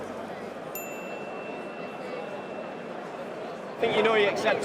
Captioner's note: tick pinging